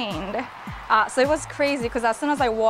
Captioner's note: crowd cheering